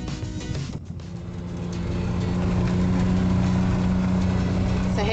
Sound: engine roaring

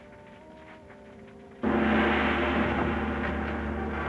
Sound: gong chimes

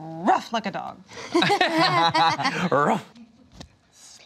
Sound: laughter

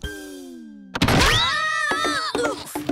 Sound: screaming

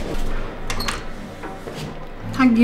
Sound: door opens

